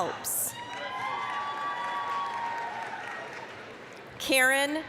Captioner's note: applause, cheering